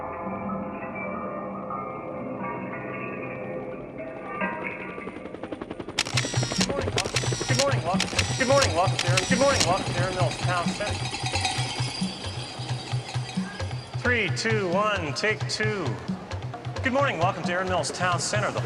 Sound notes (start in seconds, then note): 5.1 helicopter rotors whirring; 6.0 camera clicking; 11.5 jangling music